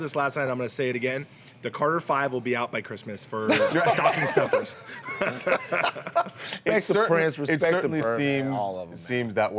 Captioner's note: laughter